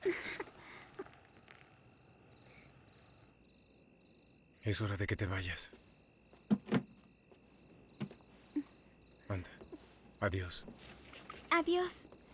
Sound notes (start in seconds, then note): 2.3 sobs